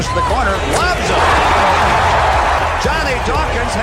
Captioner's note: crowd roars